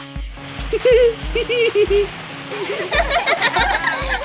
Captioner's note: giggling